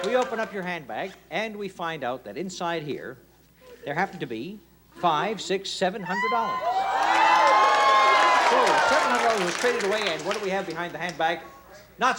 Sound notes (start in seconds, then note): 6.1 cheers and applause